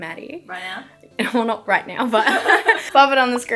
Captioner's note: both laughing